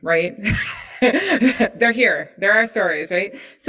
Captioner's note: laughs